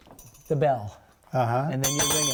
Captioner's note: bell ringing